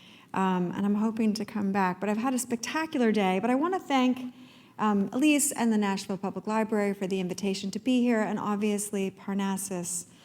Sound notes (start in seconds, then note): none